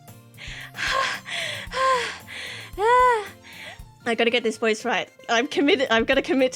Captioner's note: breathing heavily